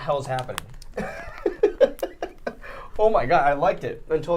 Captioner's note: laughing